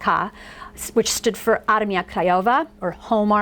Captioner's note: foreign language